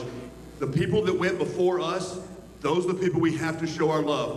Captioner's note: none